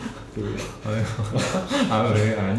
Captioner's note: laughing